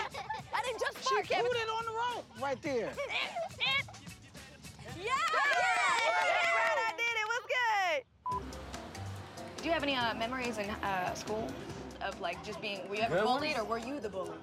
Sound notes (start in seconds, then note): 4.9 kids cheer